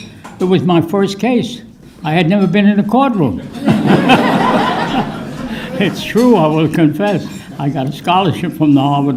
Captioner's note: laughter